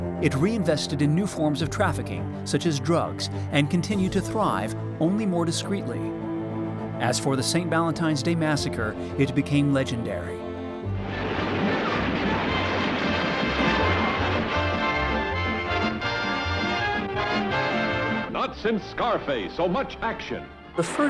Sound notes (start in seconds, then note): 11.2 gunshots; 11.2 vintage music